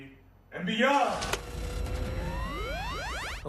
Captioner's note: graphic blipping